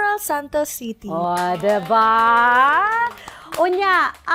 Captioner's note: applause